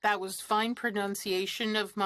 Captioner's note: speaking French